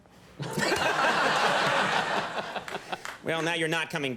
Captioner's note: audience laughing